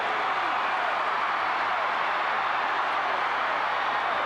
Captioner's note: crowd cheering